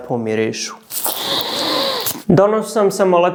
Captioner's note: sniff